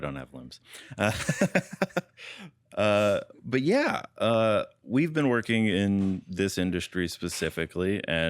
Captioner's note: laughs